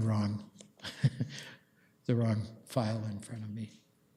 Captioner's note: chuckles